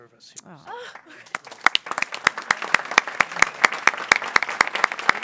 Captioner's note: people clapping